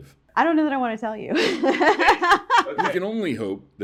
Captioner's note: laughter